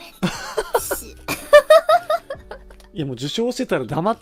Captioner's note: Roboco laughs